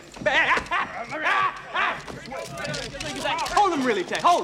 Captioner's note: shouting